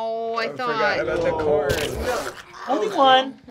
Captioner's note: snarling